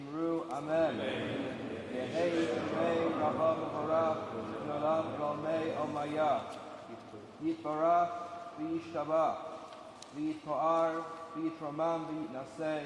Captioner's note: speaks Hebrew